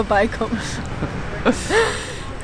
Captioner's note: laughter